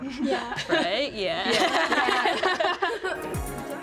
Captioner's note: laughter